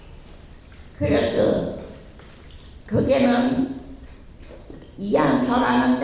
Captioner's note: speaking in foreign language